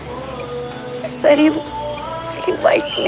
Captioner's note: voice breaking